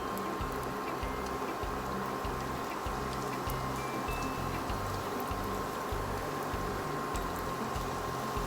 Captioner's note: frying oil sizzling